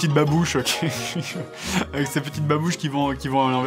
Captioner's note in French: rires